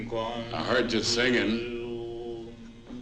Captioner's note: none